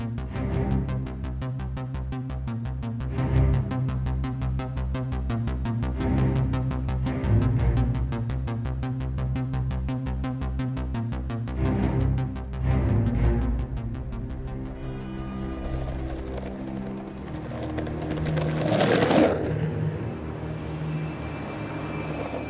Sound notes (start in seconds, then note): 14.9 horn honking; 15.7 skateboard clattering; 17.2 suspenseful music; 19.2 traffic whirring; 22.3 skateboard rolling